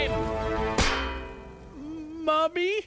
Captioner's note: clank